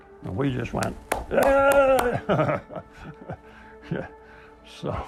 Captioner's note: clapping